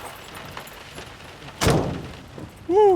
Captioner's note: door slamming shut